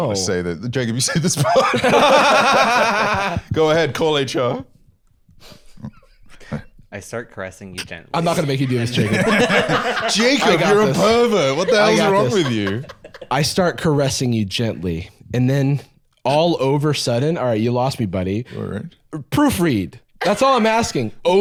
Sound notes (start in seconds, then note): 1.0 both laughing; 8.7 laughing